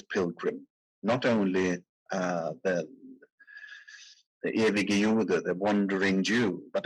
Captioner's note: speaking in foreign language